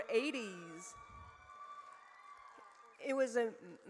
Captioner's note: audience cheers